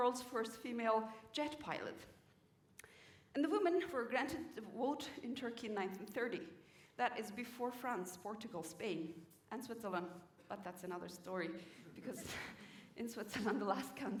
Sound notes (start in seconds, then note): 11.9 laughter